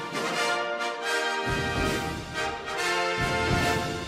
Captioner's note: speaking in foreign language